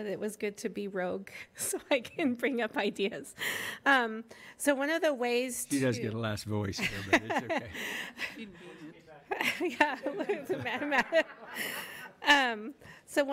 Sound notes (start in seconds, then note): 6.7 laughter drowning out speech